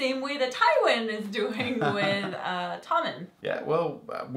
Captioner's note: laugh